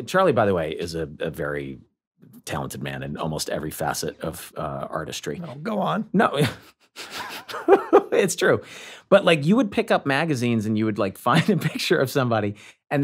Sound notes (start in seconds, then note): 7.0 laughs